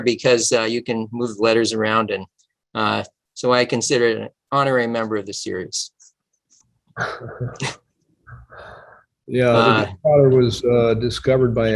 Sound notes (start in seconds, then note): 7.0 laughter